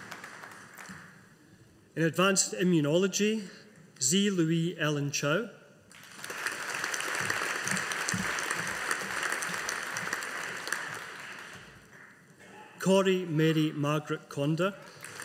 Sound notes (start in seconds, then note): 5.9 audience applauding